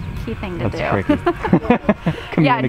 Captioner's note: laughs